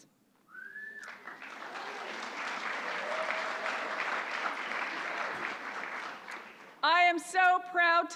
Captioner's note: applause